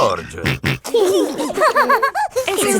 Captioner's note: snorting and giggling